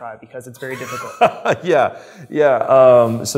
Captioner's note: laughs